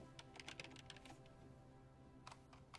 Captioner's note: keyboard clacking